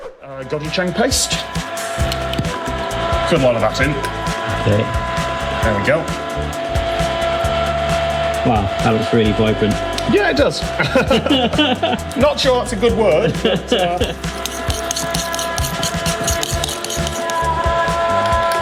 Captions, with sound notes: Gochujang paste. Good lot of that in. Okay. There we go. Wow, that looks really... vibrant. Yeah, it does. (both laugh) Not sure that's a good word, but...